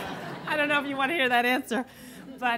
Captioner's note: laughter